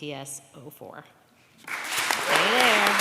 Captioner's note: applause